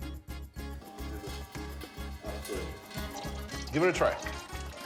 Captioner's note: dripping